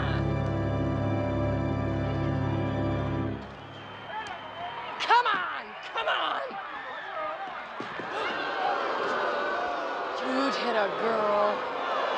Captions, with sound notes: COME ON! COME ON! [CROWD BOOS] YOU'D HIT A GIRL?